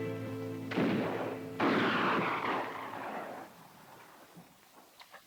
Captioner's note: distant guns fire